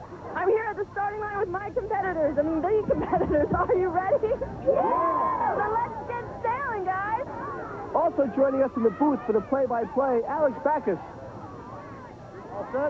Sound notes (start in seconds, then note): 4.7 all shouting